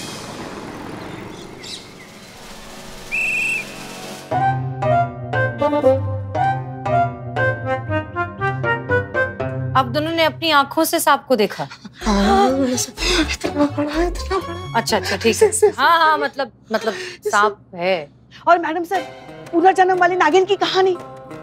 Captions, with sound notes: [birds chirping] [whistle blows] So, both of you saw the snake. [gasps] It was huge! Alright. So, there is a snake. Maddam Sir, what about the reincarnation story?